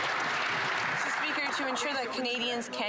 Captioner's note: some Applause